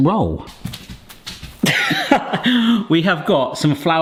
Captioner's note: flour sprinkles